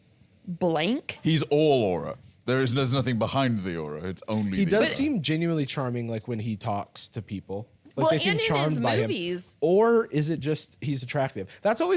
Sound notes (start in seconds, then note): 2.2 laughing